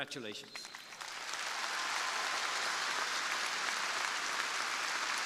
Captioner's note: crowd applauding